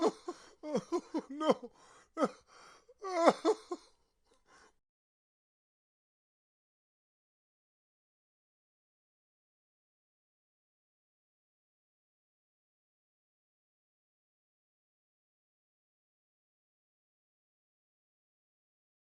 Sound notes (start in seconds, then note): 3.0 man weeping